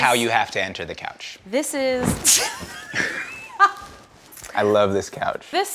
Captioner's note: laughs